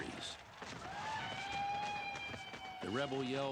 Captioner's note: yelling